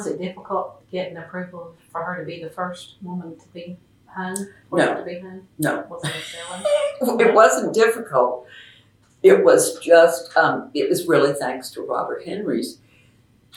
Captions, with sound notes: Was it difficult getting approval for her to be the first woman to have her portrait hung? No. (Laughs) It wasn’t difficult. It was really thanks to Robert Henry’s